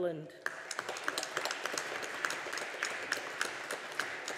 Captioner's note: audience applauding